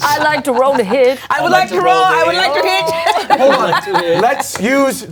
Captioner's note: laughing